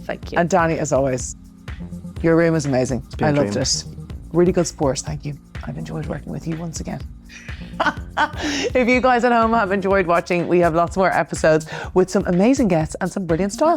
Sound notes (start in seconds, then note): 8.1 laughing